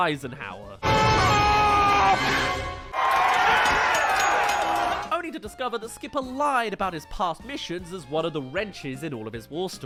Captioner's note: lands* *Cheers